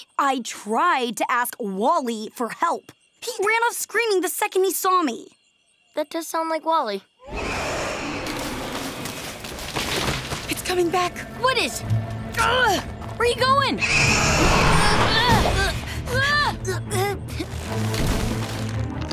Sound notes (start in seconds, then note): 7.2 roaring; 13.8 roaring; 14.1 grunting; 16.0 shouts, grunts